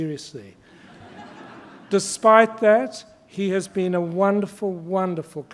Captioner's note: laughter